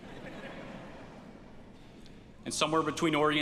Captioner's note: audience laughs